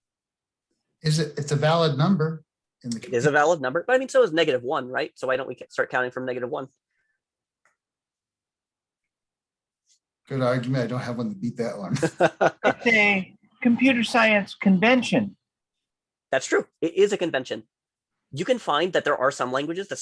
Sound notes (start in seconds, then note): 13.8 tender Voice